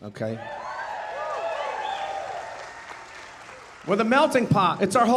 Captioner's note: audience cheering and applauding